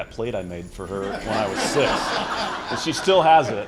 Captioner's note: laughter